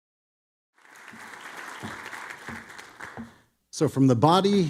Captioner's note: audience clapping